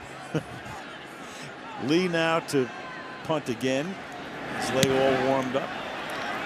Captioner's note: chuckles